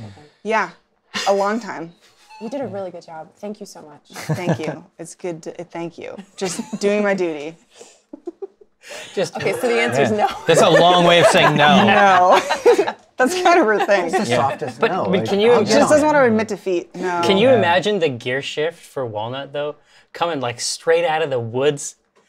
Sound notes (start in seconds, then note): 8.0 giggles; 9.2 laughter